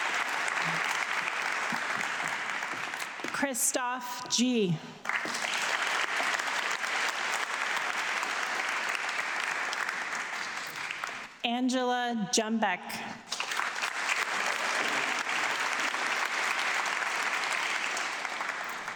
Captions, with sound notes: Christoph G. (audience clapping) Angela Jumbeck. (audience clapping)